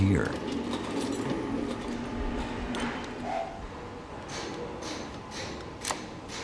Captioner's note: speaking in foreign language; tools clattering